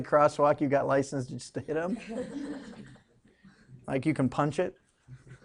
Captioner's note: students laughing